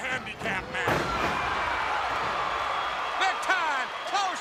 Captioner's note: crowd cheering